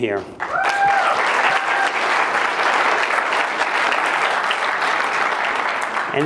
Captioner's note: applause